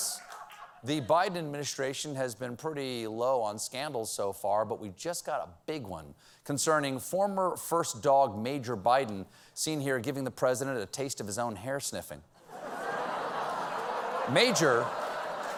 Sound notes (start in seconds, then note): 12.4 laughter; 13.4 applause